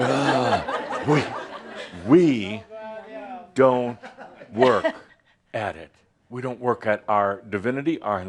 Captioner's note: laughter